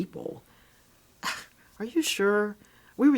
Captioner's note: scoffs